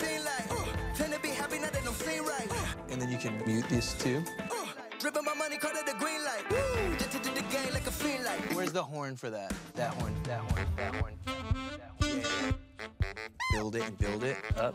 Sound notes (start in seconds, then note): 10.4 echoing